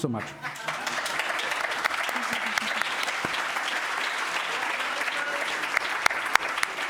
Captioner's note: applause